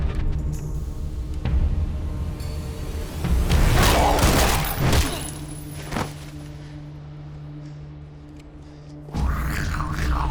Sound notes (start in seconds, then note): 3.8 gunshot_; 9.2 snarling